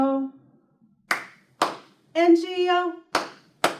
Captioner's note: clap